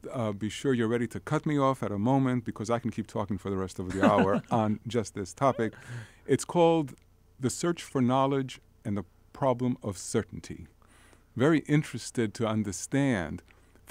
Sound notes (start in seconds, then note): 3.9 laughing